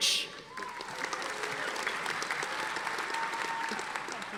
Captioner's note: audience applauding